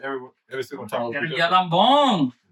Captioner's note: speaking Foreign Language